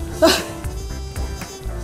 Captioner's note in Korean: 푸핫